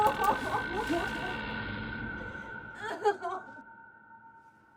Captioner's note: door creaking